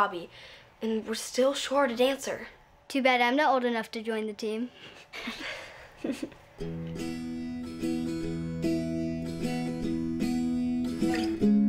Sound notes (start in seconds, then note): 5.1 all giggle